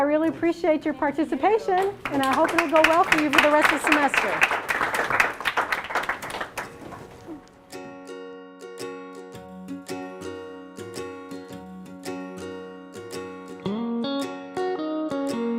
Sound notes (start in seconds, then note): 4.4 applause; 7.0 closing Music